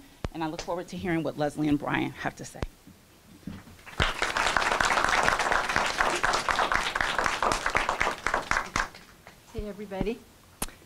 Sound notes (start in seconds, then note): 3.8 applause